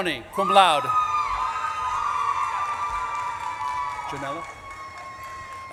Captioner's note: audience claps and cheers